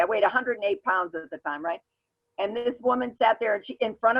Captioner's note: none